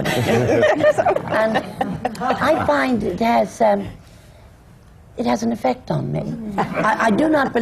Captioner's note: laughter